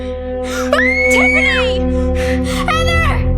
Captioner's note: Tiffany screaming